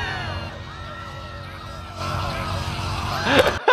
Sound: people screaming as note continues; chuckles; laughs

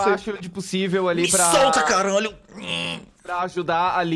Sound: ngh

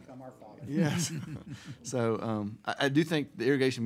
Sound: laughing

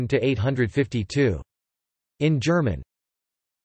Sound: in German

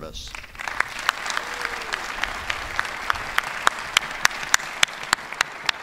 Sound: applause

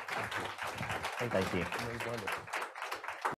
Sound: applause

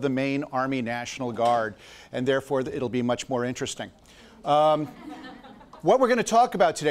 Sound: audience laughs

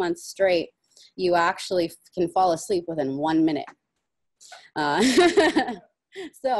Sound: laughs

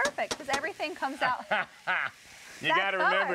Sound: laughing

